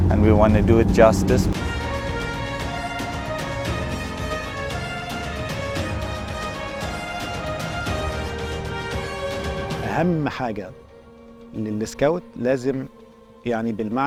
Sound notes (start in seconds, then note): 1.5 upbeat music; 9.9 in Arabic